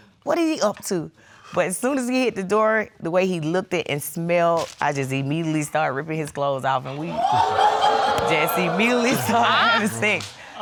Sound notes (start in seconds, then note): 7.2 audience laugh